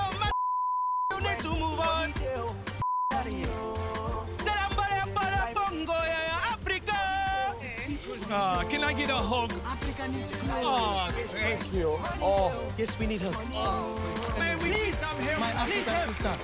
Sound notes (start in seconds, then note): 3.8 yelling gibberish